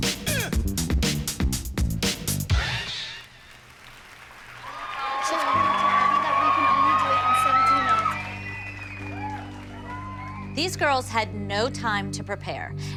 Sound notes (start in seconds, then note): 3.1 applause; 4.4 cheering